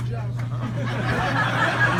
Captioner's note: audience laughs